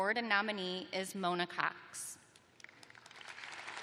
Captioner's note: applause